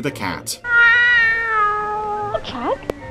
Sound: Footso meowing

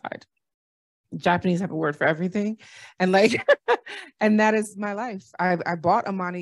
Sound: laughter

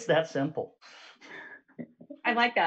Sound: chuckles

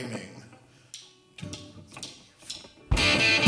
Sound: drumsticks clacking; guitar & drums playing

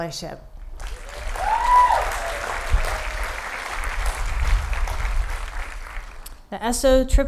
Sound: applause

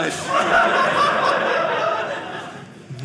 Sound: audience laughing

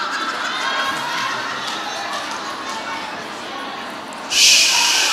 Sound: audience chattering

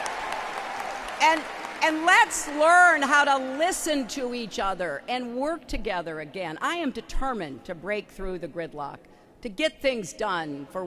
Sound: applause

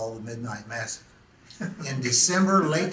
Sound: laughs

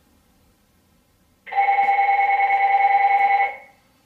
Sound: phone ringing

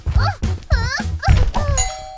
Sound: straining continues; straining stops

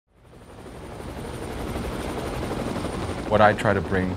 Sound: helicopter whirring

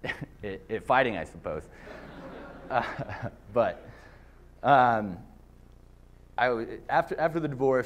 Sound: laughter

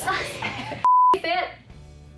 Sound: screen beep

